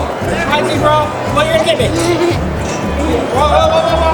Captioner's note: murmurs